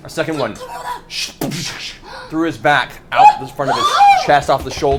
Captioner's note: impact sound